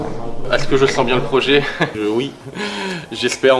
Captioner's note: laugh